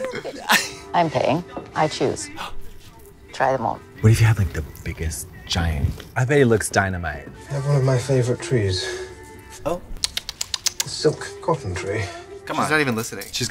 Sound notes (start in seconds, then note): 2.6 gasps